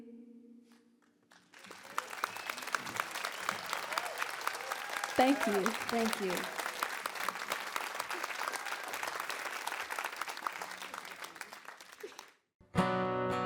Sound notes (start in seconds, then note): 0.2 crowd applause; 9.2 crowd applause